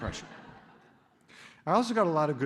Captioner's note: laughter